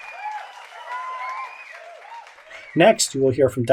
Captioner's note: cheering